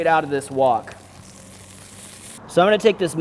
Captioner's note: meat sizzles